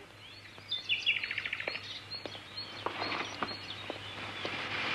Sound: bird singing

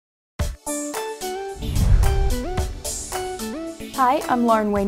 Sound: swoosh

